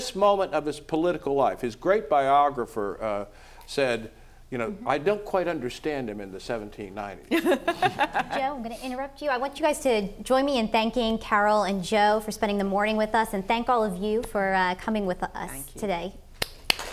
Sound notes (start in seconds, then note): 7.4 laugh